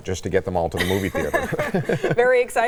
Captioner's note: laughs